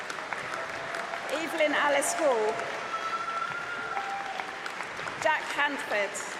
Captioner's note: applause